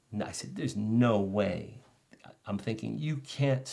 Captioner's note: none